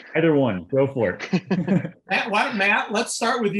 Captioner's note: laughter